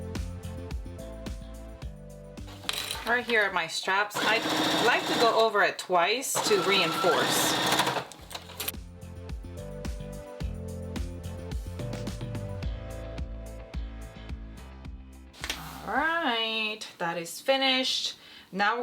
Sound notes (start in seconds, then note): 6.3 serger sewing; 8.3 uplifting music